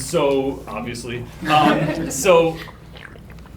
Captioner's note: group laughter